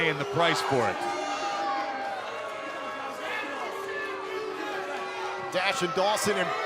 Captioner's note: crowd cheering